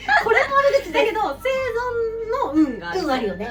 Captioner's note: laughs